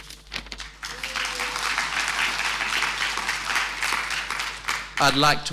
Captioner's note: audience applauding